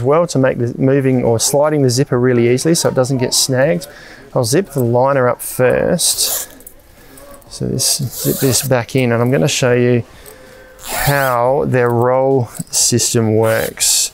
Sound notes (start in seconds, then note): 6.2 zipper zipping